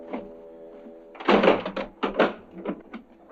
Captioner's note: metal thud